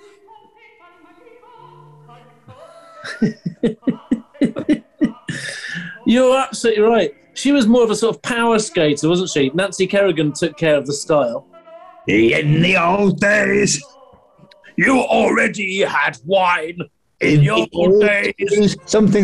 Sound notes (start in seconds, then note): 2.5 giggling; 11.9 gruffly